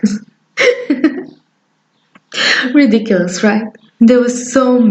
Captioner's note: laugh